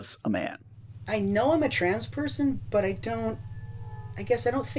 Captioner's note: voiceover